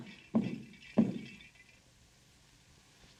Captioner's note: stomps foot; clatters